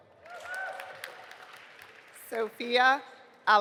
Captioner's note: audience applauding